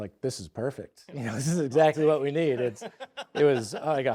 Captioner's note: laughing